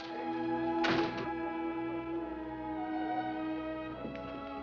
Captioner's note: door slamming